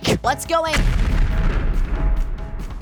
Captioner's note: crash